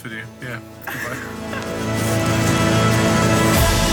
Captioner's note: laughter